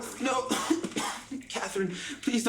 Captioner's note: coughs